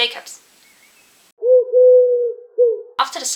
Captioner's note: pigeon noise